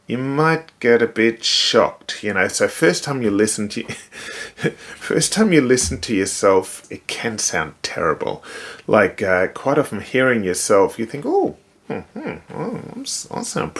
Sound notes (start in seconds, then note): 3.8 chuckling